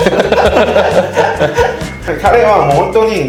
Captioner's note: laughs